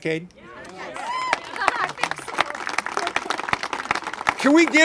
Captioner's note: congregation applaud